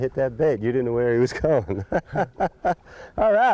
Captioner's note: laughter